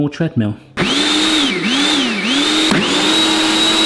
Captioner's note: jug whizzing